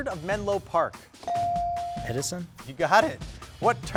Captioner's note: bell dings